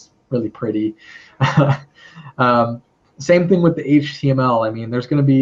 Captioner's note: laugh